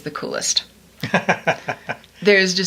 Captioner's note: laughs